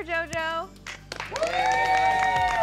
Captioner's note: applause